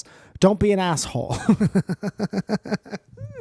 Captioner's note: giggles